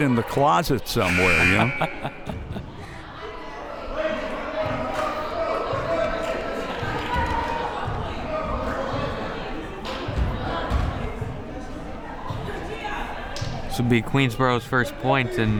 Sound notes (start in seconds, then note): 0.8 laughs; 1.0 buzzer